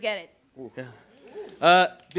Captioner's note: snaps